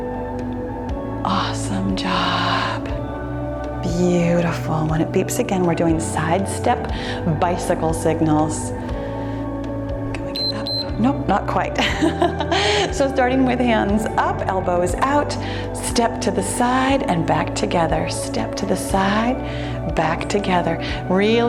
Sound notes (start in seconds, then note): 10.3 timer beeps; 12.2 laughs